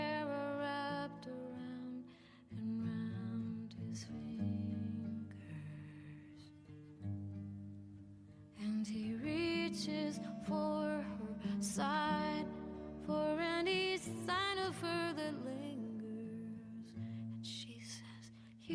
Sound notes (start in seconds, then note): none